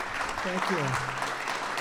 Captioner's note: applause